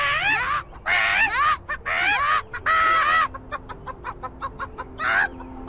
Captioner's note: chicken noises back and forth